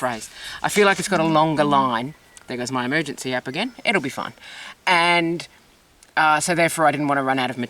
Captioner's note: phone beeps